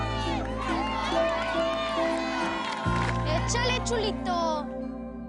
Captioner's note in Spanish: Gritan al unísono